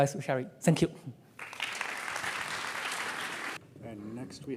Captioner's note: applause